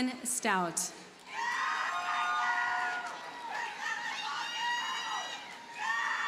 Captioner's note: audience cheers and applauds